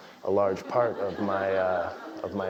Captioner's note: laugh